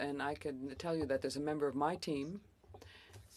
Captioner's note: speaking French